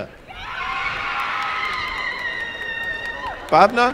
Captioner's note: applause and cheering